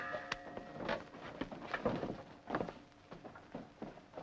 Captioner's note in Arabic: رنين الجرس